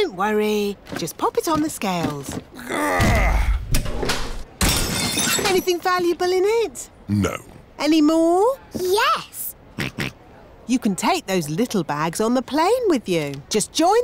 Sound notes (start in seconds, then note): 2.6 grunts; 4.6 crashes; 9.8 snorts